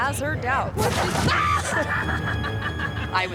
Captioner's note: screams; chuckles